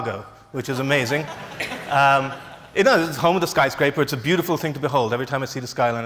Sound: laughs

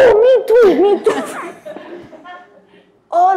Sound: audience laugh

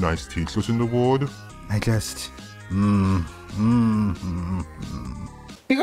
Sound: groaning

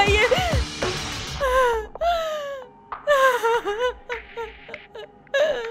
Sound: crying

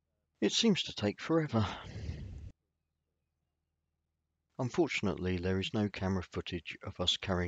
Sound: audible SIGH!

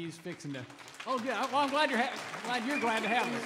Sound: audience cheering

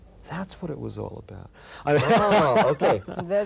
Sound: laughs

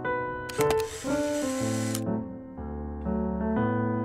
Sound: camera clicks

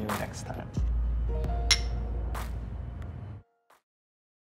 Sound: glasses clink

